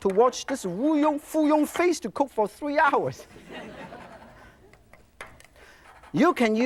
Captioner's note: audience laughs